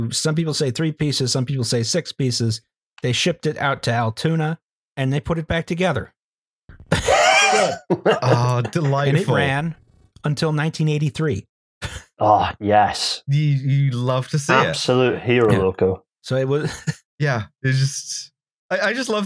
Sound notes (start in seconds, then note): 6.9 laughter; 16.6 laughs slightly